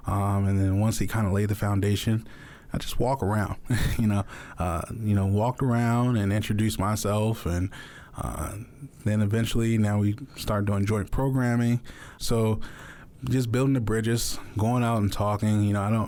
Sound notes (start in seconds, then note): 3.6 chuckles